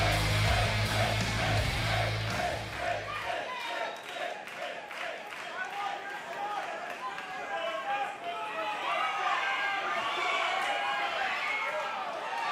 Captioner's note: fans chanting